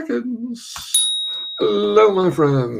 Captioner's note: bell tinkling